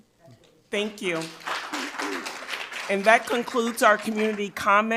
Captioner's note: audience applauds